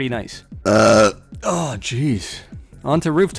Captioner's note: burps